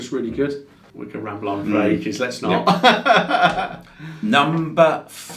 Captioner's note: laughs